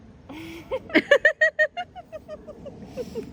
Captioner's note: laughter